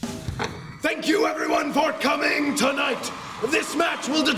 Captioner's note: crowd cheering